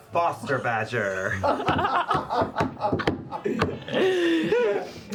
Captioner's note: laughter